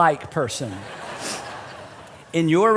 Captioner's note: laughter